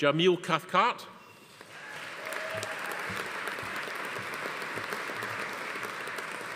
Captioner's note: audience applauding; attendees cheering